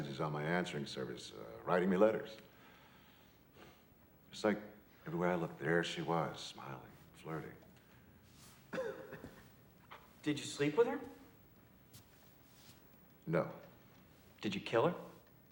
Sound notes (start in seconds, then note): 8.7 man coughs